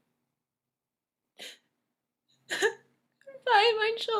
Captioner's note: Nora weeps